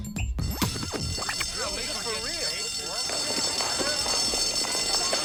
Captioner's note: alarm bell ringing